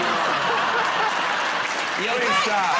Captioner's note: laughter